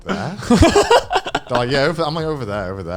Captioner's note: laughing